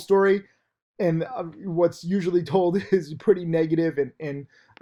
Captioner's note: laughs